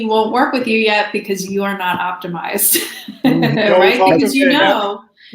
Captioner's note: laughs